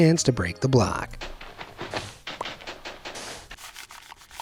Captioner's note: game clanks, crunches; gravel rattles, bag whooshes